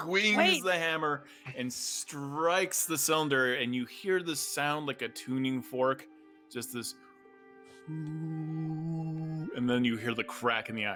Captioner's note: oooh sound